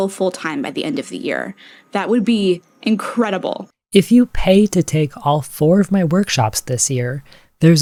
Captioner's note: inhale